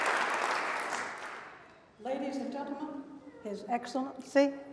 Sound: applause

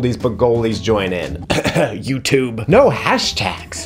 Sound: faking coughing

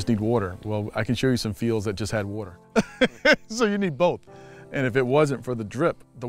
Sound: laughs

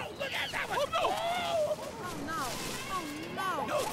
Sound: exclaiming; yelping

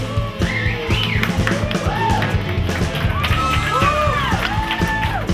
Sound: applause

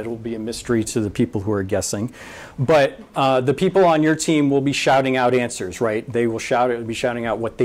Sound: none

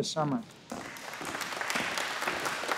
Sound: applause

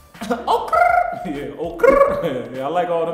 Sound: chuckles

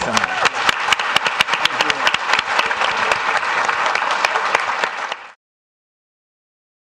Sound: audience applauding

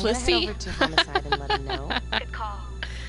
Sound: laughter

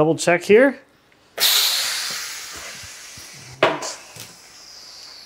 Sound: air hisses

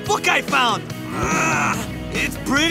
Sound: grunting

